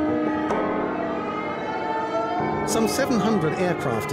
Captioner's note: alarm wailing